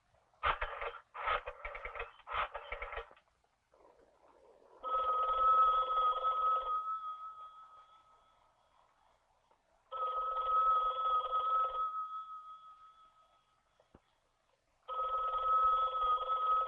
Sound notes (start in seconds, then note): 1.4 phone dial cranking; 4.7 phone ringing